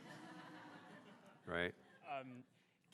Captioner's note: audience laughing